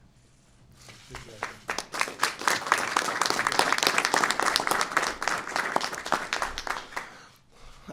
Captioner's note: applause